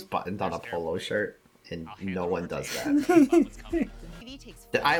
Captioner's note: laughs in using both buttons